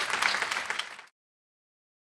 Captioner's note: applause